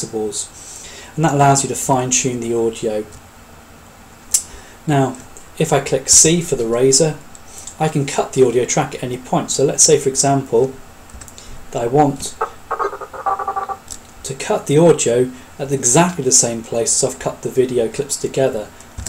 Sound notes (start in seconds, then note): 11.8 distorted audio